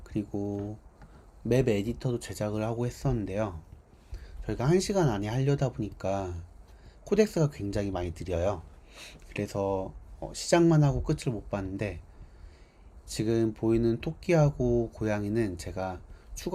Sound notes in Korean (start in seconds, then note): 9.5 콧방귀